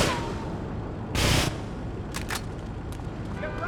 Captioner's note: gun firing